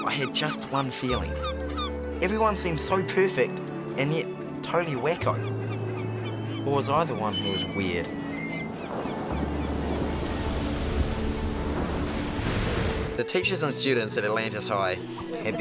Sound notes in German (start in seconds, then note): 7.2 Scharniere knarren; 9.1 Wellen brechen